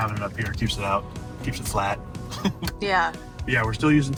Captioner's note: chuckles